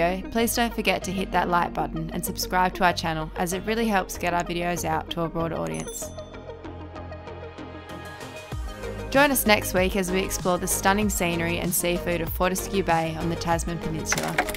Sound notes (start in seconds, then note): 5.7 bell chimes; 14.4 clanking